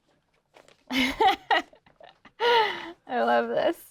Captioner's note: laughs